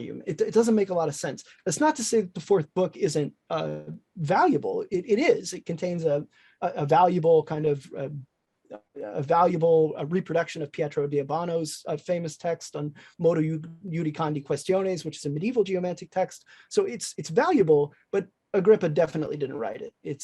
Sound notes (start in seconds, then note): 13.1 speaking in foreign language